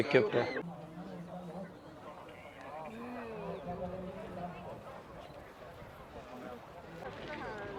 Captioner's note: people speaking